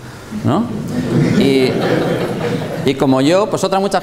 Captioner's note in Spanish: risas